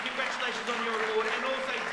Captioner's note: applause